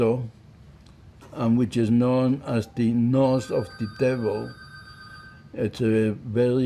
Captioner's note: phone ringing